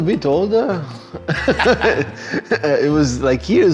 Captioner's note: both laugh